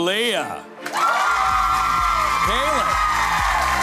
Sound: audience cheering

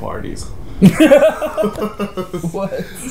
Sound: laughs

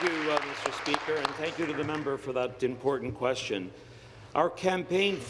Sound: applause

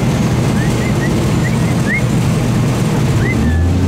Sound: whistles

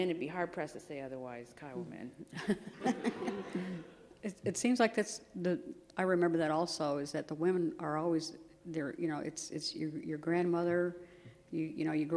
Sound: laughter

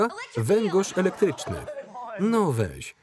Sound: laughter

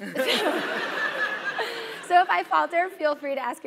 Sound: laugh

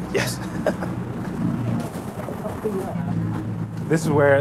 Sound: laughs

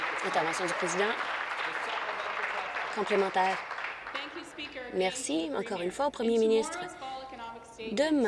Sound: applause

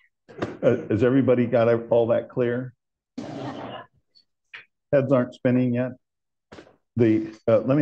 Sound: laughter

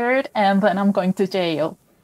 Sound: none

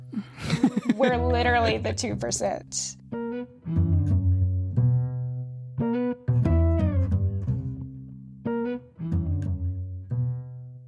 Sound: laughs

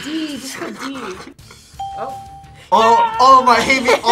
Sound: ding; laughs

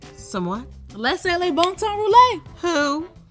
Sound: speaks Creole

